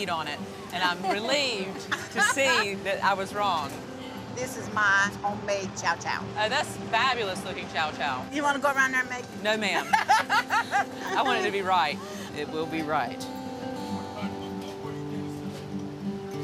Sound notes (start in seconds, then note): 9.8 laughs